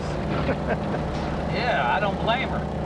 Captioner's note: Joe chuckling